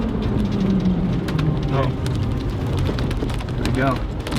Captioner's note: engine revving